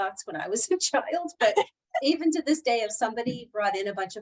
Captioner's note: laughter